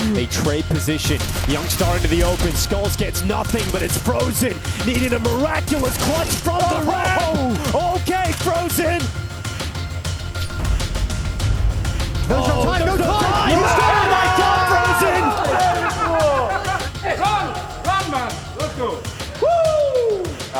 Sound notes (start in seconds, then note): 10.2 tense music continues; 13.9 group cheering